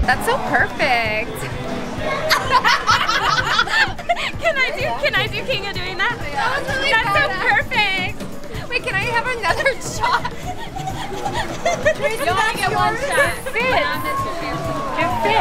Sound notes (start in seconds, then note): 2.6 laughing; 11.3 laughing